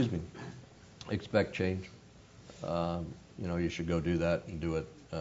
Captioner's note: cough